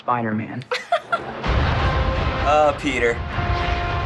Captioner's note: chuckles